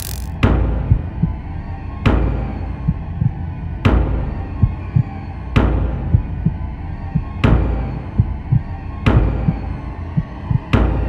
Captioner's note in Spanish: golpe fuerte y latido del corazón